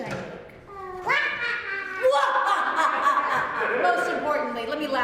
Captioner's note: laughing